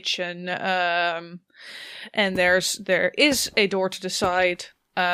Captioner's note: rustling of cloth and quiet footsteps continue